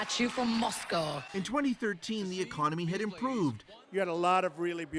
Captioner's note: applause